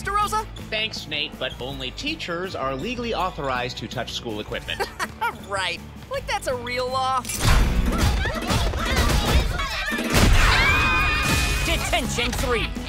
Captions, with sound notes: Thanks, Nate, but only teachers are legally authorized to touch school equipment. Right. Like that's a real law? [groaning] [screaming] Detention three.